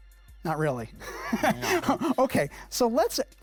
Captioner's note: laughing